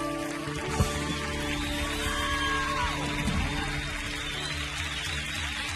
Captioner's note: audience cheering and applauding